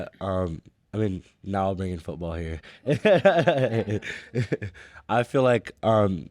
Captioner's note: laughing